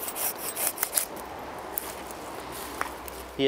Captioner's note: traffic noise